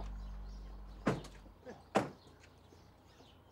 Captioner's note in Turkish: Kapı kapanır